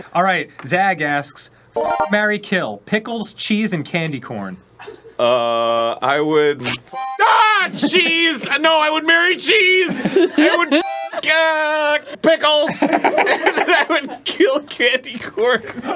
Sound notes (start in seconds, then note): 6.6 rrrrip; 6.9 yell/curses